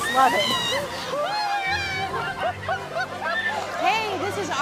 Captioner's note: screaming and laughing